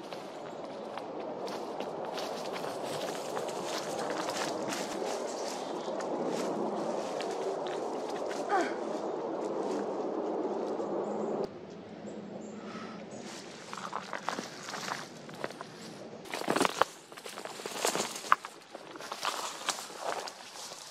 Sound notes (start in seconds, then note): 0.0 still those pesky CF-18s, footsteps in leaves; 6.0 rustling of branches and leaves while the CF-18s are still flying; 16.2 leaves and branches crackling, footsteps